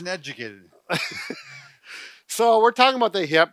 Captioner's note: both laugh